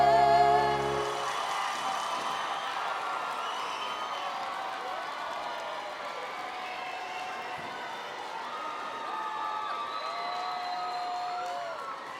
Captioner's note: cheering and Applause